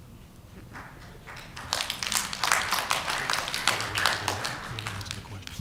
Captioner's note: applause